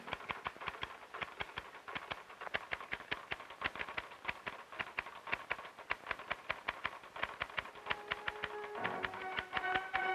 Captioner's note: typewriter clacking